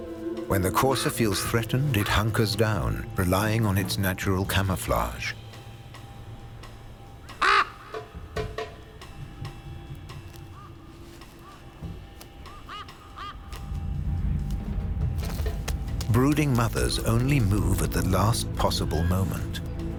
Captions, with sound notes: When the courser feels threatened, it hunkers down, relying on its natural camouflage. (raven caws) Brooding mothers only move at the last possible moment